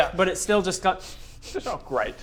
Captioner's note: sniff sniff